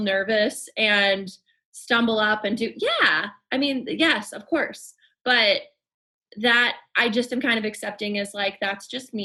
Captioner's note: none